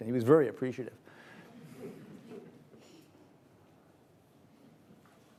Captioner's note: audience laughs